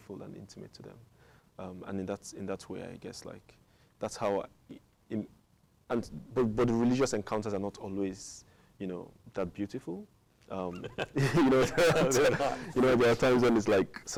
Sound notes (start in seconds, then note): 10.7 both chuckle